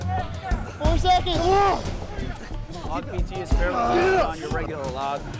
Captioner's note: students grunting